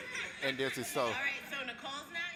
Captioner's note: children laughing